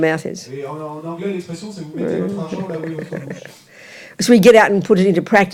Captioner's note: French